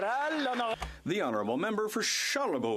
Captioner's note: some Applause